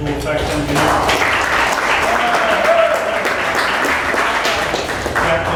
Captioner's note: applause